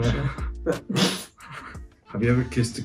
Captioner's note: snorts